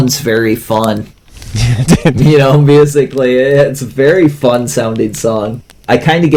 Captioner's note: laughs